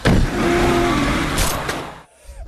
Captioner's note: car revs up; gunshot